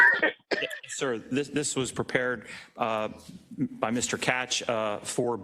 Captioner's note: cough